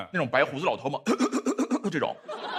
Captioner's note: cough cough cough